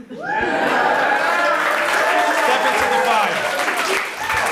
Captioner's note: audience applauds